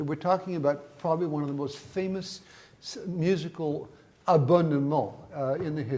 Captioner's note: speaks in foreign language